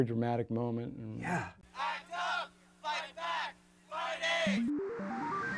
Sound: chanting

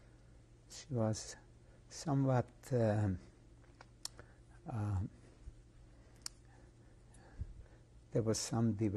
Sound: pauses for 6 seconds

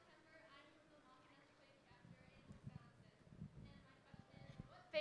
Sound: faintly speaking

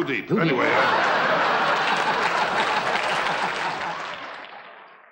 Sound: audience laughing

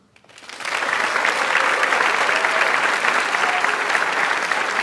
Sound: audience applauds

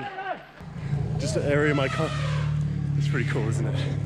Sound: elephants trumpeting

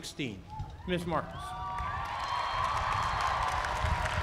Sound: applause

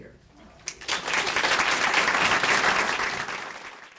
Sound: applause

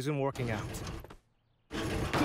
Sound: door opens

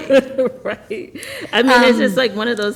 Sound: laughter

